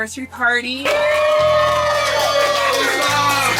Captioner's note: cheering appropriately